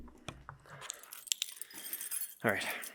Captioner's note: keys clanging